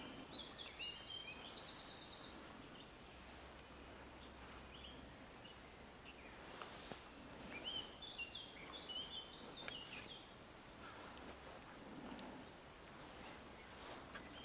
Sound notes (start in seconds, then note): 1.2 more birds chirping